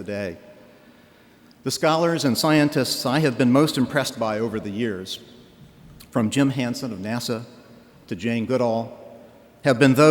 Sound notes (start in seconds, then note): none